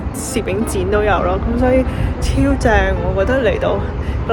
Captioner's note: sincerely